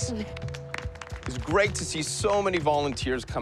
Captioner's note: applause